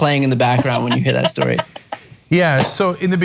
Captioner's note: laugh